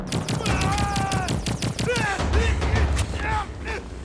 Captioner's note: groaning; gun firing